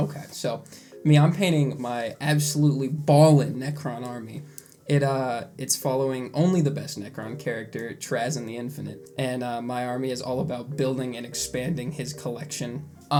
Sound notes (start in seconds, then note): 4.6 lipsmack